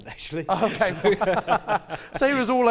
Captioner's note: laughter